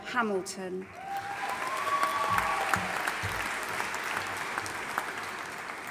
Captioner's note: audience applauding and cheering